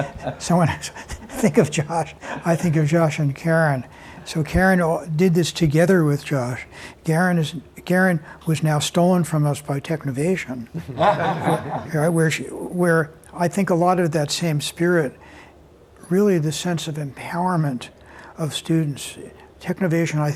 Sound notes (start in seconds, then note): 10.7 laughter